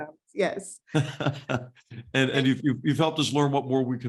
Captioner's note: laugh